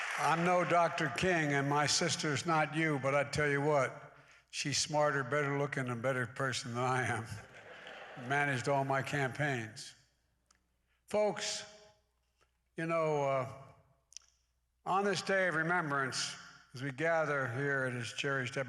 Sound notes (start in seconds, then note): 7.5 laughter